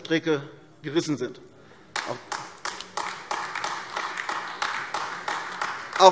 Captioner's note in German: Beifall AfD